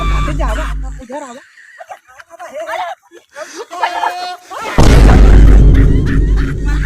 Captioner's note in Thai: เสียงหัวเราะ